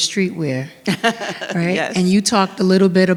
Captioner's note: laughs